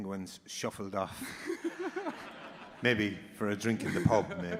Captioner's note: audience laughing